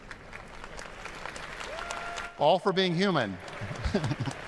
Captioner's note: applause